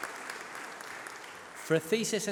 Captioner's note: applause